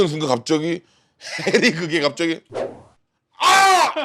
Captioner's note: screamed at the piercing smell of cigarette smoke